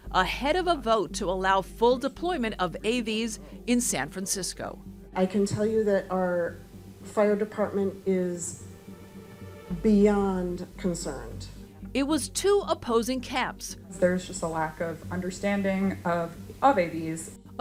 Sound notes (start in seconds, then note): none